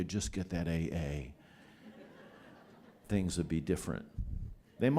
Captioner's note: laughter